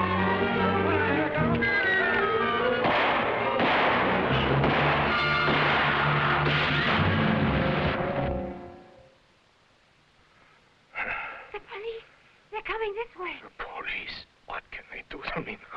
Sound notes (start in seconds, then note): 0.0 officers shouting in foreign language; 2.8 guns firing